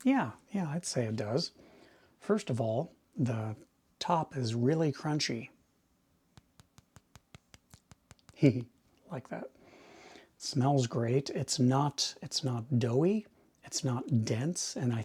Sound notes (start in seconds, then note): 6.3 finger tapping; 8.5 chuckles; 9.6 inhales deeply